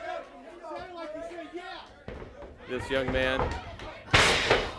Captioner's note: crowd chatter